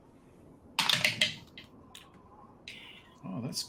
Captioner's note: dice rolls